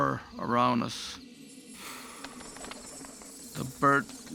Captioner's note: wings fluttering